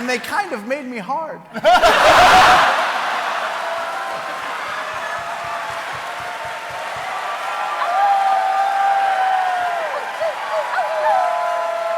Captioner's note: cheering